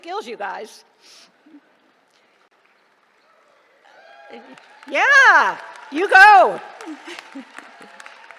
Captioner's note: applause